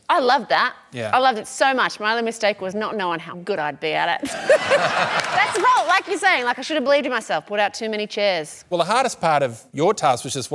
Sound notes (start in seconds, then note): 4.3 laughs